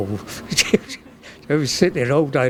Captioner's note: chuckles